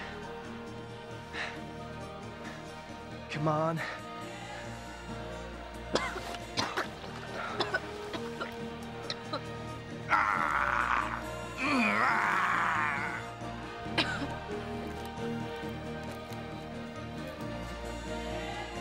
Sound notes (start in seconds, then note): 5.9 coughing; 8.7 grunt; 13.8 coughing